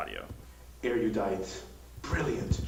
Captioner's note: computerized Voiceover